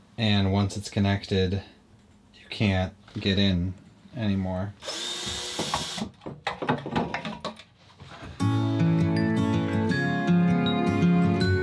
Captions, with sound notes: And once it's connected, you can't get in anymore. (drill buzzing) (soft music)